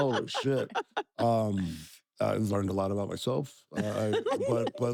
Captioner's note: laugh